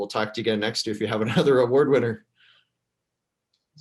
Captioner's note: laughs